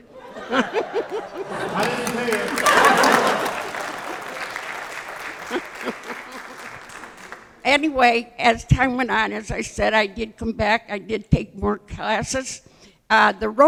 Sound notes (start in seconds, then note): 0.0 laughter; 3.9 applause